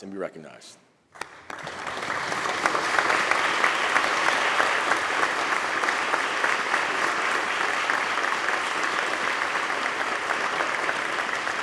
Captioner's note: applause